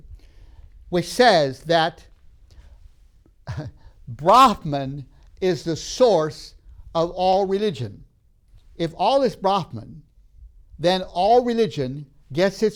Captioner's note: laughs